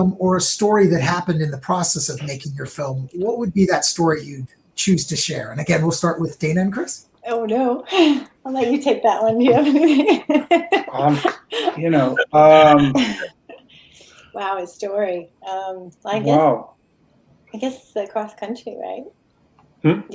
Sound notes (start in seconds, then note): 7.7 chuckling; 10.0 laughing